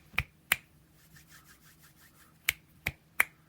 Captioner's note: snap, snap, snap; hands rubbing; snap, snap, snap